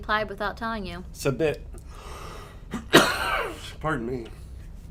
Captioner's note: coughs